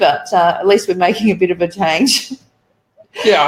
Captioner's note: laughs